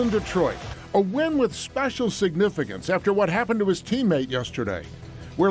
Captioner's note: cheers